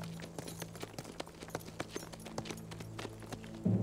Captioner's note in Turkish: At nalı sesleri